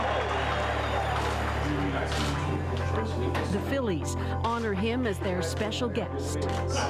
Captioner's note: cheers and Applause